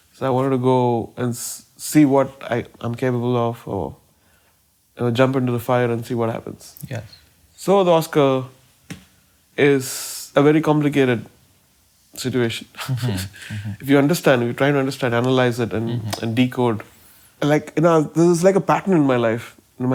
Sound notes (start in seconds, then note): 12.9 laughs